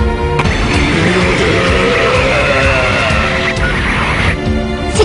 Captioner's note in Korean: 엔진대왕의 기합 소리